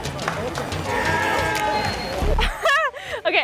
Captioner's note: crowd cheering